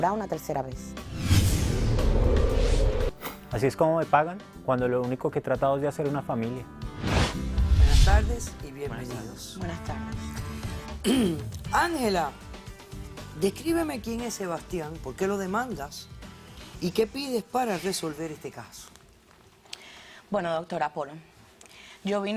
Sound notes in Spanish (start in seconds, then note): 11.0 carraspea